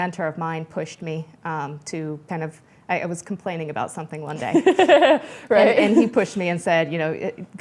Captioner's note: laughter